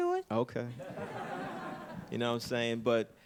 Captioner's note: audience laughing